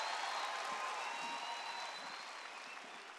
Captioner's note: cheers